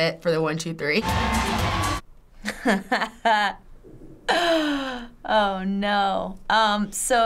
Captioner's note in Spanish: música optimista; risas